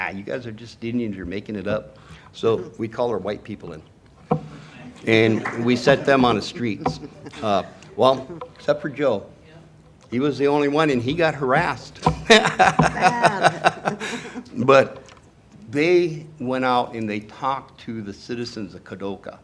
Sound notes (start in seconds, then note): 12.2 laughter